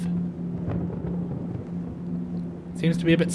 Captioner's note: thunder